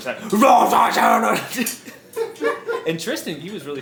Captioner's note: speaks gibberish